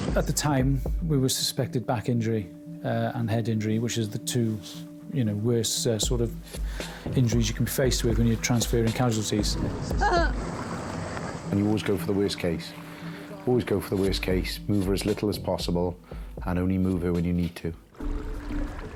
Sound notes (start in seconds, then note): 9.9 whimpers